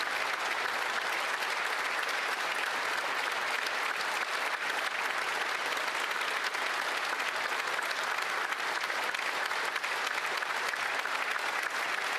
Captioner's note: applause